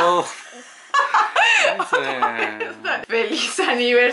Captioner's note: laughter